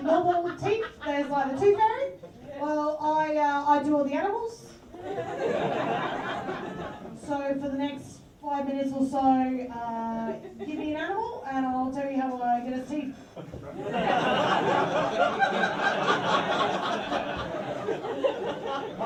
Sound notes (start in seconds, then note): 4.9 laughter; 13.4 bemused laughter